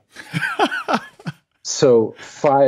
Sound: laughs

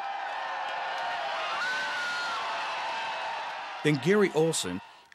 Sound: crowd shouting and cheering

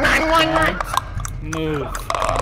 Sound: more of your typical Buck-tastic screams

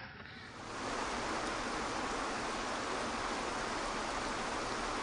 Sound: water splashing

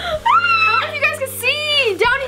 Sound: cries out

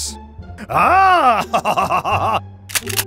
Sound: happy French laughter

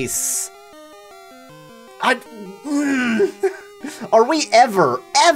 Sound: angry groan

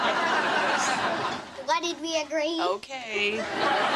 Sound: laughs

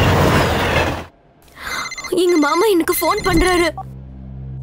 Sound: phone rings

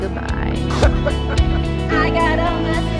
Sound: laughs

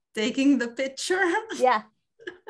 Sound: laughs

